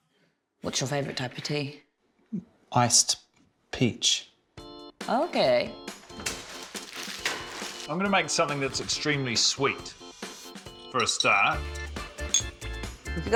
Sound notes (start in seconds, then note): none